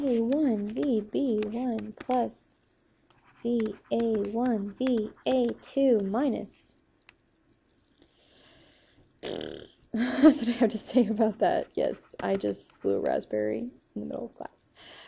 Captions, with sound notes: (instructor blows raspberry) (giggles) that's what I have to say about that. Yes, I just blew raspberry in the middle of class.